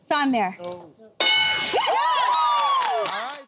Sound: cheers

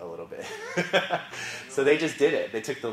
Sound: laugh

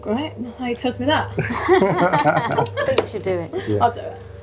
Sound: laughing

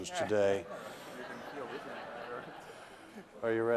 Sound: laughter

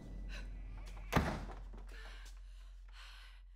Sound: door slams

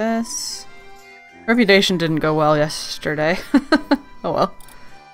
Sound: laughs

